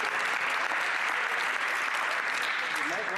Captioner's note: some Applause